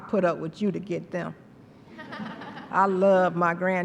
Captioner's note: laughter